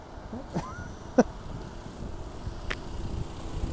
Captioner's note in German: Lachen